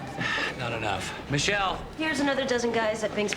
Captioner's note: sighs